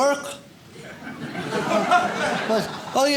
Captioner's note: audience laughs